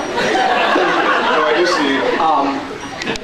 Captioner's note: laughs